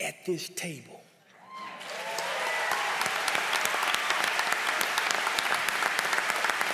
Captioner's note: applause